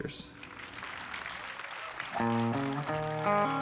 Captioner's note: audience applauding